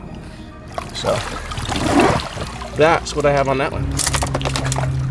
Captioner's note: water splashing